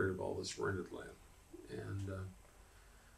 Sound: laughs

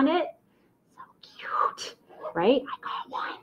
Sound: whispers

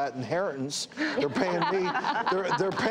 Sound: laughing

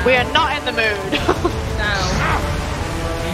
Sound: laugh

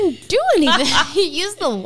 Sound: laughs

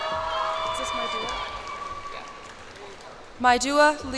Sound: cheers and applause

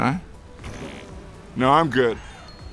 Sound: poop noise

